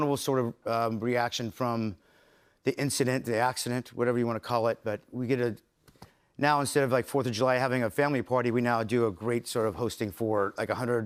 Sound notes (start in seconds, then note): none